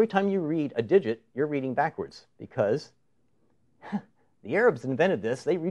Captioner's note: snickers